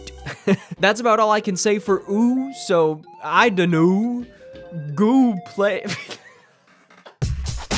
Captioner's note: laughs